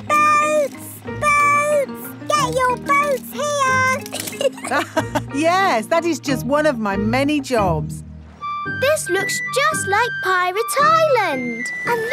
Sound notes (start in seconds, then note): 4.0 laughs